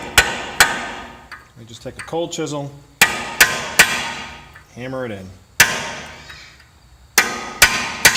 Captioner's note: hammer on metal banging; loud banging